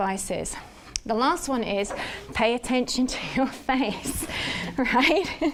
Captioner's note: laughs